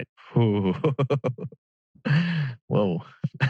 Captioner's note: laughs